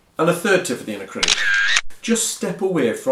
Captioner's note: camera shutter clicks